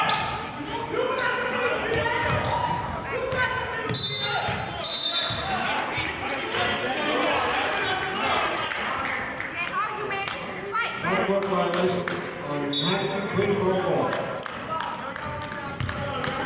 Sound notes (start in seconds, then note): 3.0 yelling; 4.8 whistling